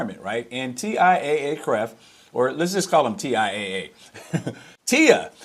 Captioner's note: laughs